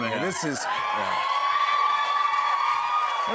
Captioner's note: cheers and applause